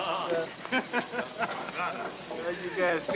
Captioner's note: men laughing